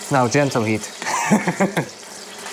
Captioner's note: laughs